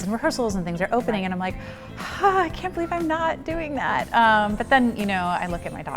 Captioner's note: sighs